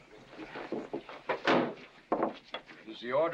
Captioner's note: whispering; bang